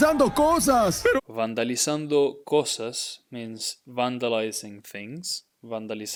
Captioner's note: speaking in Spanish